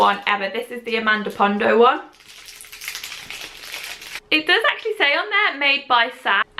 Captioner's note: rustling